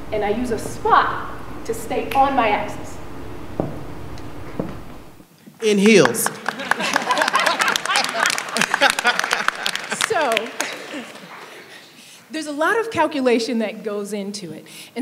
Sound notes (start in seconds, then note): 5.7 applause; 5.9 laughing